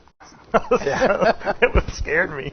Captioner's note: laughs